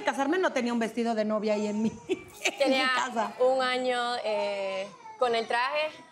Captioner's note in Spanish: Balbucea